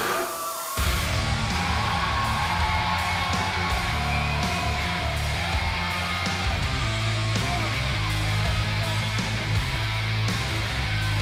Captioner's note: cheers and applause